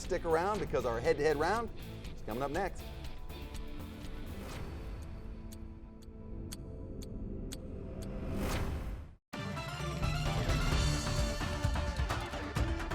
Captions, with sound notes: You're gonna wanna stick around, because our head to head round is coming up next. (clock ticking with background music) (upbeat music)